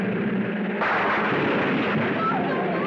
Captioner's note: wall crashing